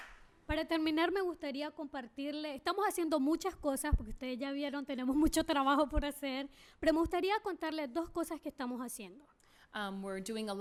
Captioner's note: speaking spanish